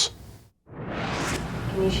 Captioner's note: whoosh